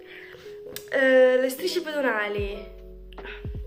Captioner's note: in Italian